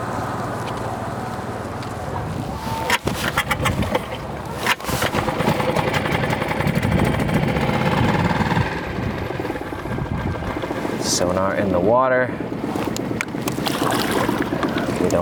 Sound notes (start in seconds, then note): 3.3 motor droning; 12.4 water splashing